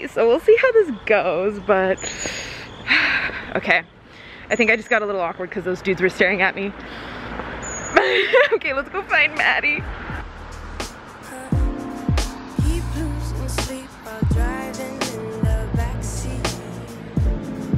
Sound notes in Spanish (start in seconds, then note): 7.9 se ríe